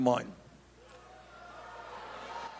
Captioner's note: laughter